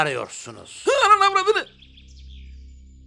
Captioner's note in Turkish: Korkma sesi